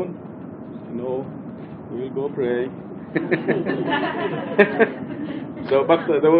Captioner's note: mescitte gülüşmeler